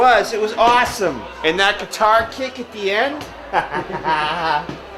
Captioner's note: laughs